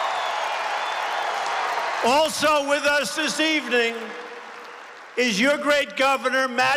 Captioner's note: applause